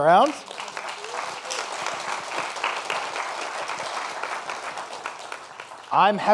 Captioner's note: applause